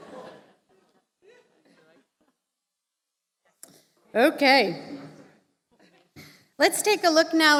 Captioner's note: laughter